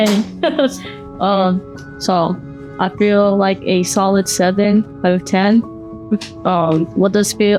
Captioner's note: laughs